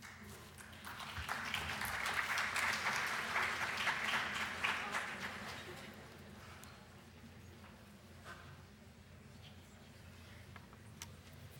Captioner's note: applause